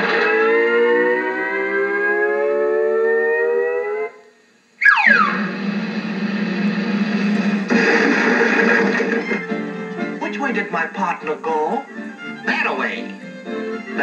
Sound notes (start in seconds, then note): 0.0 crash; 0.2 comical Music; 5.2 drum Roll; 7.7 crash